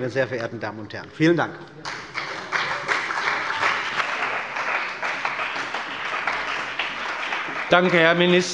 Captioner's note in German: Beifall bei dem BÜNDNIS 90/DIE GRÜNEN und der CDU